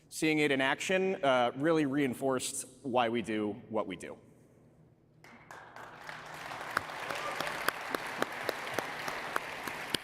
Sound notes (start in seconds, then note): 5.4 audience applauding